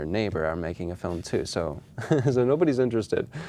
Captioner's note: laughing